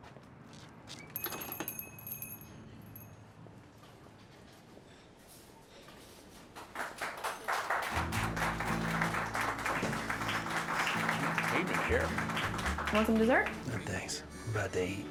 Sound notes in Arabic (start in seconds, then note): 1.1 يفتح الباب، رنين الأجراس; 3.5 خطوات; 6.4 الضيوف يصفقون